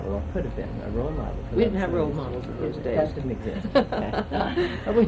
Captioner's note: laughter